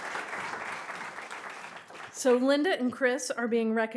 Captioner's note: audience applauding